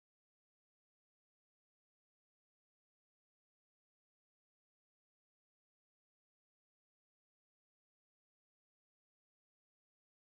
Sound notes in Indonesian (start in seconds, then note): none